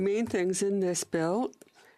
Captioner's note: speaking French